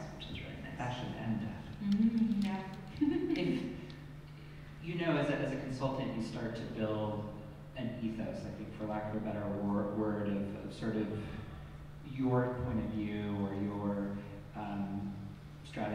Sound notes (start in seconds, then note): 2.9 laughs